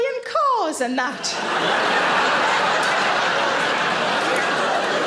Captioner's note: audience laughing